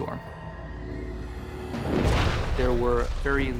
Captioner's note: thunder rumbling